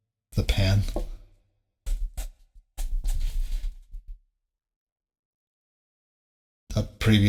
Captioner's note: silence